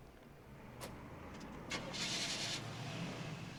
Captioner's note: engine starts